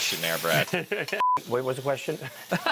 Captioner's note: beeping; laughing; laughing